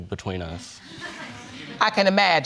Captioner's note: audience laughs